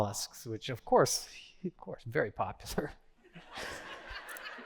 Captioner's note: laughter